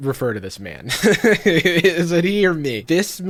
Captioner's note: laughing